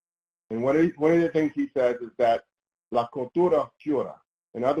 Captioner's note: speaks Spanish